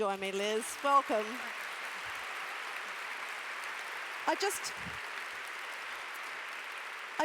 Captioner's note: applause